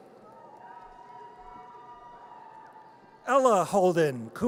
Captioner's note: audience cheers